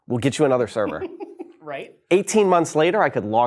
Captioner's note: laughing